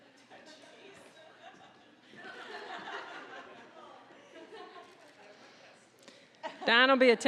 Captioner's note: audience laughing